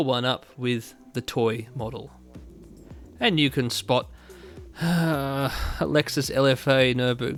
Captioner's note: pained sigh